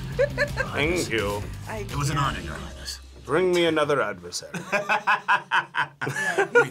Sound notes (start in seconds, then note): 0.0 laughs; 4.5 laughs